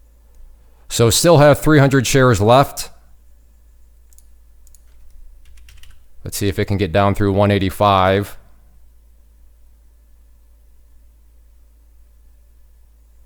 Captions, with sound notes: So still have 300 shares left. (mouse clicks) (keys typing) Let's see if it can get down through 185.